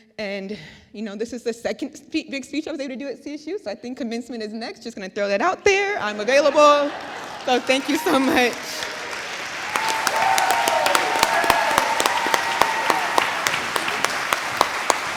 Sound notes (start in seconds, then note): 6.1 audience laughs; 9.5 audience applauds; 9.5 audience cheers